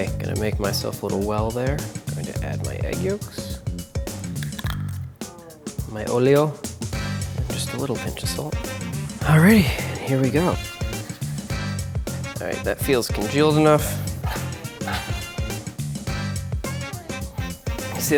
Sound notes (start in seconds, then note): 4.0 egg cracking; 14.8 jazzy music